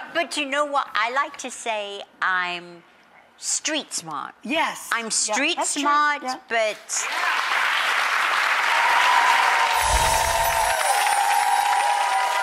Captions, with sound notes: but you know what, I like to say I'm street-smart. I'm street-smart, but-- (audience cheers) (tinkles)